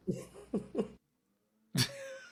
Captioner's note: laughing